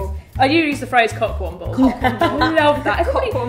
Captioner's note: laughs